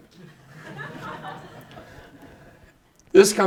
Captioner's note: participants laughing